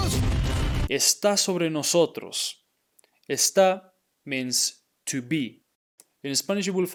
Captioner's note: speaking in Spanish